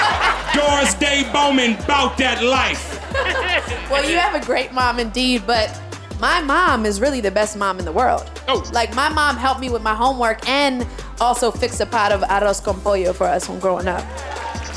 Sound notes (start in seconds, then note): 11.8 speaking foreign language